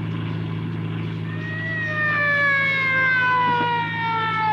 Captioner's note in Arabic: صافرة الإنذار تدوي